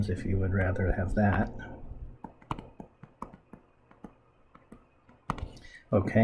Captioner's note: writing Sounds